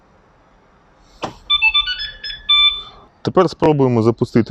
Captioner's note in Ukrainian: звук: автомобіль став на охорону